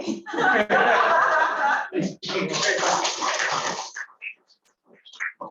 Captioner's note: laughter